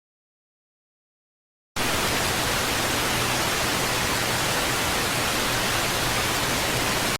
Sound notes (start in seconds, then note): 1.8 tv static